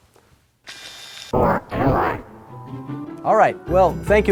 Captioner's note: robot voice